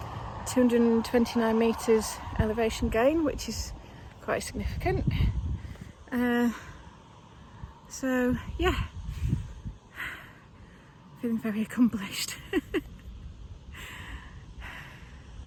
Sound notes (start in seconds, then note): 12.4 laughs